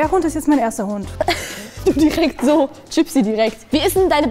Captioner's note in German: Lachen